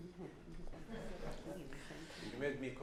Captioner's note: laughs